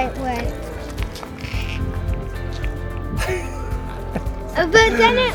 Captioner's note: laughter